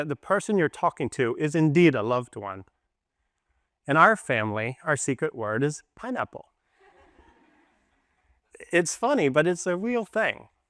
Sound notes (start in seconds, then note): 6.7 laughter